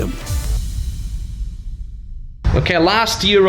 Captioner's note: electronic explosion